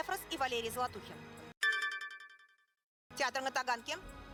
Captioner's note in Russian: звук из видео "Włącz ostrożność - film edukacyjny"